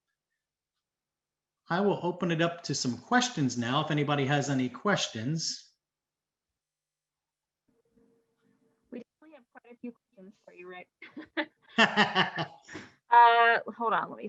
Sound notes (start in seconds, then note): 11.0 chuckles; 11.7 laughs